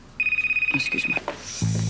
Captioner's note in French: Le téléphone sonne